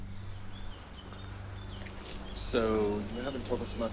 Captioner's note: birds chirping